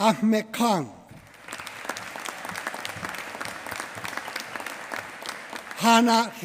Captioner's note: applause